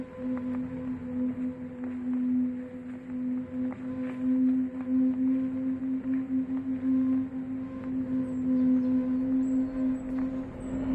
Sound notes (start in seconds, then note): none